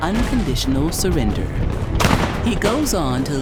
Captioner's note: sounds of battlefield